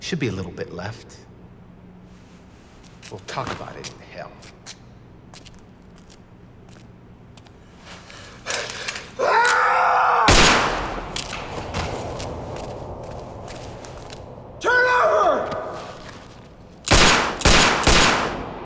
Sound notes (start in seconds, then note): 10.2 gunshot; 16.8 gunshots